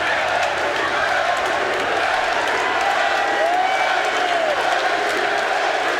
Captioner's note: crowd roars and chants